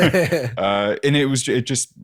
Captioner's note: laughs